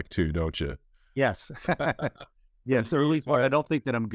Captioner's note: laughs